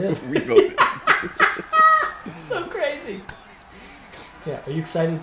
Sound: laugh

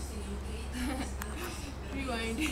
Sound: laughs

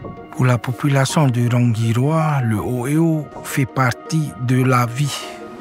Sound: speaking foreign language

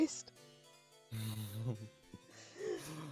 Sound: laughs

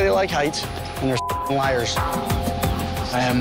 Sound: beep

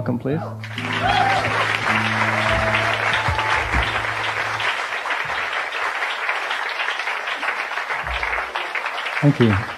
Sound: the audience applauds warmly

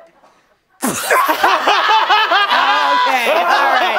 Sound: laughing

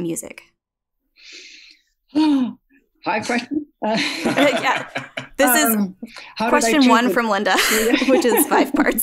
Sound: laughs

